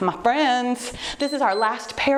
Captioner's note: timer beeps